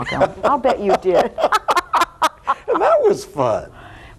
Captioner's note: both laughing